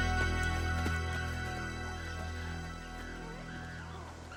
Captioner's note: animals squealing